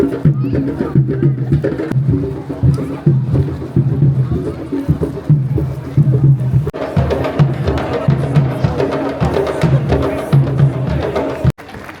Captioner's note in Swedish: Applåder